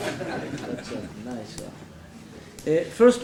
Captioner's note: laughing